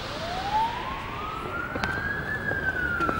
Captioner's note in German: Sirene